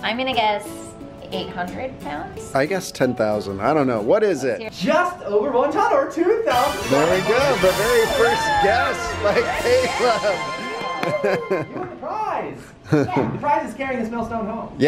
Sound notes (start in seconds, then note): 6.4 celebratory music; 11.6 laughs